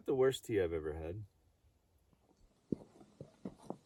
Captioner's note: snow crunching underfoot